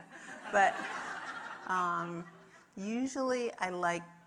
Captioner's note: audience laughing